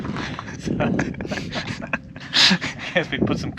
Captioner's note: chuckling